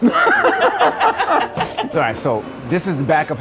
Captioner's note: laughing